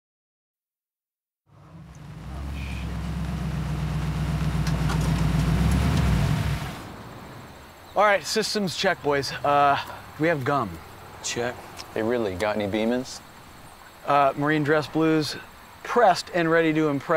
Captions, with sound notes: *TRUCK ENGINE IDLING* ALRIGHT SYSTEM'S CHECK BOYS WE HAVE GUM? - CHECK HEY BRILLY, GOT ANY BEAMAN'S? MARINE DRESS BLUE'S, PRESSED AND READY TO IMPRESS